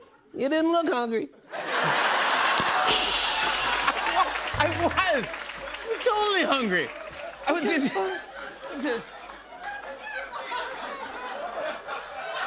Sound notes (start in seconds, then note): 1.4 laughter; 1.4 cymbal crashes; 7.0 laughter